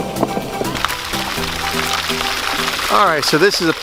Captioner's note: water splattering